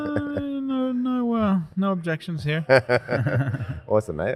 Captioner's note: laughs